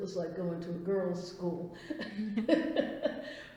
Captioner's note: laughs